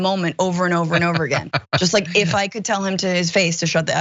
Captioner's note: laugh